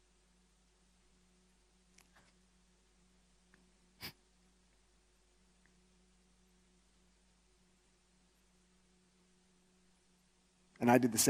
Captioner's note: stifles sob